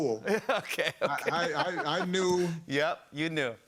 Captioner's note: laughing